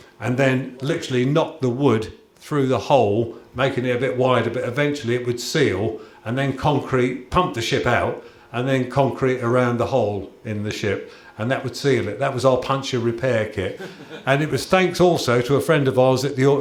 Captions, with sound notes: and then literally knock the wood through the hole, making it a bit wider, but eventually it would seal, and then concrete… pump the ship out and then concrete around the hole in the ship, and that would seal it. That was our "puncture repair kit"! [Chuckles] And it was thanks also to a friend of ours at the Or…